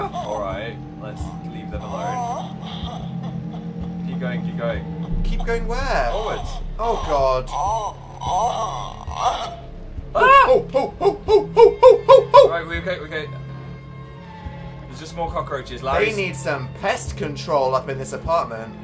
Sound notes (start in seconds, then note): 2.0 muffled crying; 7.5 moaning; 10.2 shrieks